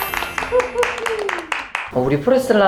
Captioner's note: applause